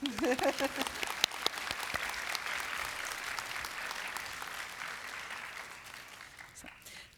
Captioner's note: applause